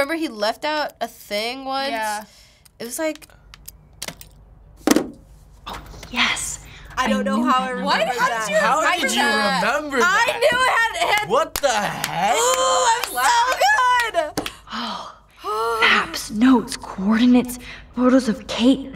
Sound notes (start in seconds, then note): 4.0 lock clicks open; 4.6 controller clatters; 11.0 claps